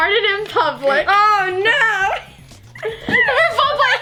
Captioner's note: laughs